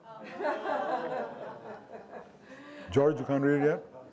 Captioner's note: audience laughing